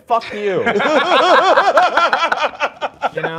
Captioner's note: laughter